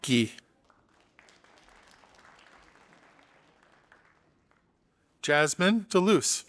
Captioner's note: audience applauding